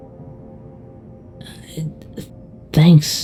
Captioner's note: Plushtrap stutters